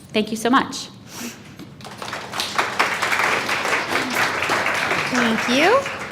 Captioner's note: applause